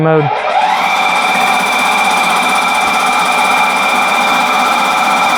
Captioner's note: machine whirring